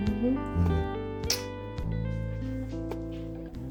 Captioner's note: kissing